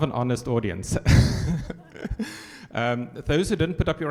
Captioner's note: chuckles; audience laughs